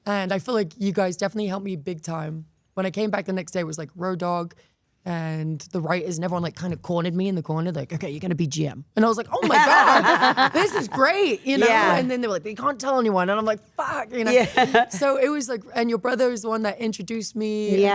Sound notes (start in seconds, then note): 14.2 laughing